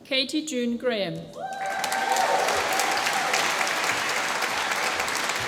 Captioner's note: applause